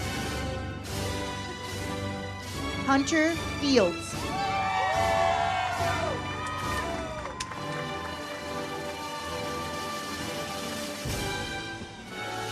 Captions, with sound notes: Hunter Fields. (audience cheers) (uplifting music)